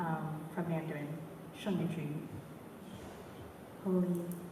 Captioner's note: mandarin